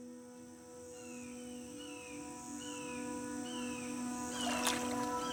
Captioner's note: gentle music; birds squawking; water swishing